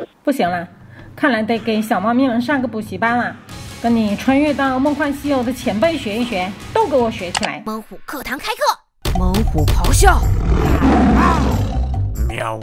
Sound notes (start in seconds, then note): 10.2 tiger roars